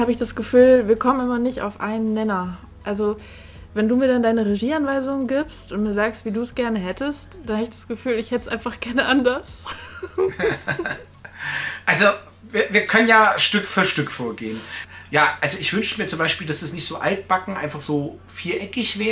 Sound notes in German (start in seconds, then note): 9.6 lacht